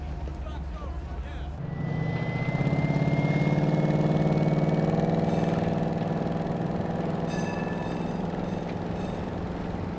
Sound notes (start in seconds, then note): 2.1 engine revving